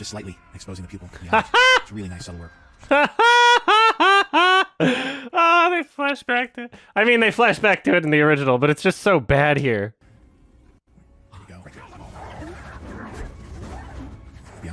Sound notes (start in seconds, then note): 1.2 laughs